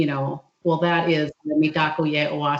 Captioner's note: speaking in foreign language